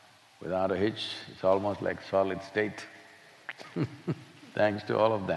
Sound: laughs

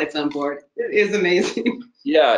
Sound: laughs

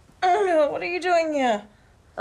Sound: groans

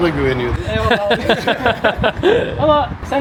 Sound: laughter

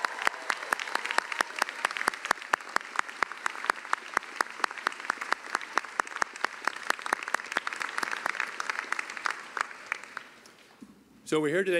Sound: cheering and applause

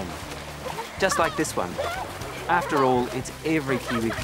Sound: kids splash

